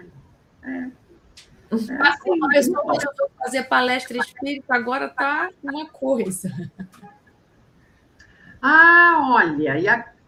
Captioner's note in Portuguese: risadas